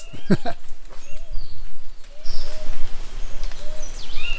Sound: laughs; birds tweeting

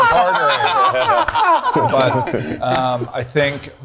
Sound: group laughing

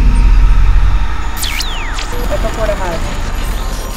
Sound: electronic whirring

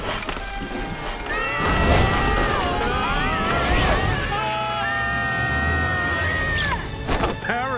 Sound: screaming

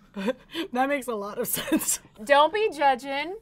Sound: laughs

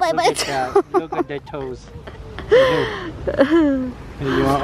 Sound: chuckles

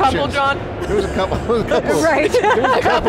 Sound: both laughing

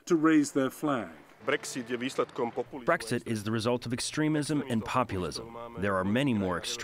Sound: through translator

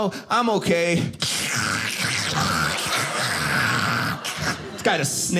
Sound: loud sniffling

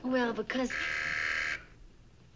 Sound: door bell buzzing

